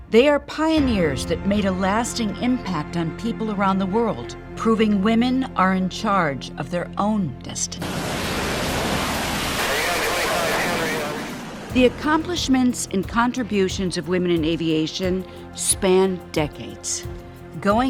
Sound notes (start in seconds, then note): 9.6 radio static chattering